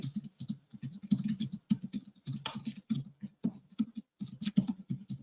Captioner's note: keyboard thudding